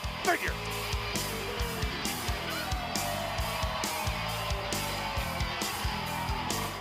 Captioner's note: crowd cheers; rock music plays